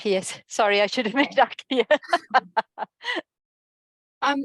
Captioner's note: laughing